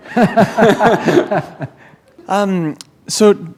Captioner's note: laughter